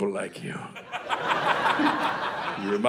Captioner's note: audience laughing